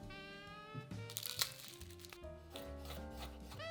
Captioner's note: garlic paper rustling